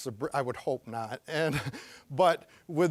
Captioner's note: chuckling